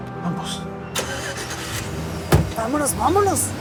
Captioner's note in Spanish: Ruido del vehículo